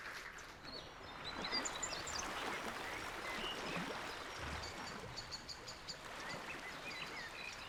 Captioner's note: birds chirping; water sloshing